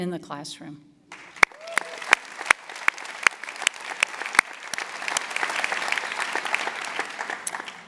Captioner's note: applause